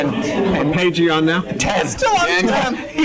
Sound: laughs

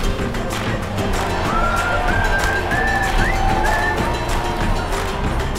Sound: upbeat music continues; cheering sounds

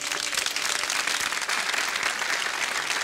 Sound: applause

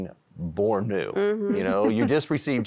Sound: giggling

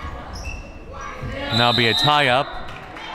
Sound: whistle

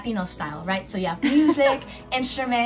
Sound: laughs

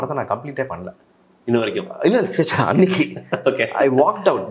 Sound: chuckles

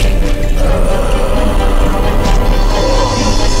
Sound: growls

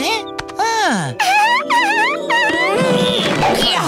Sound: giggling

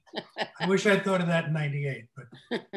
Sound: laughs

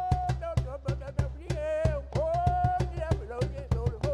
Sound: chanting gibberish

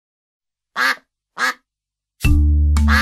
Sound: duck quacking; pleasant music

